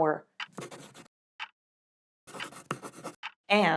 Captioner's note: writing and clock ticking